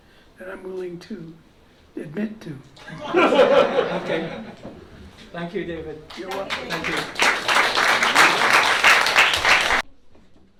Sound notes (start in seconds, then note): 2.8 laughter; 6.0 applause